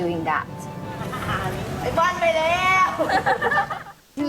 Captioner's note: laughter; shouting; laughter